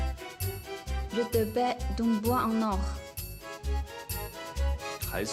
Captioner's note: French